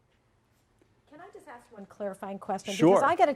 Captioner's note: voiceover